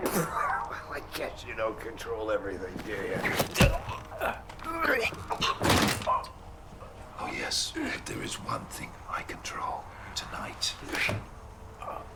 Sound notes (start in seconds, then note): 3.2 choking